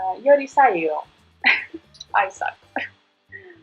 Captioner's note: giggling